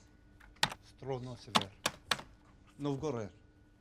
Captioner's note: man speaks unknown foreign language